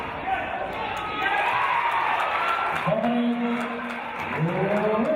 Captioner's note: cheering and applause